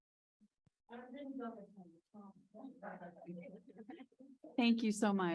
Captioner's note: people chattering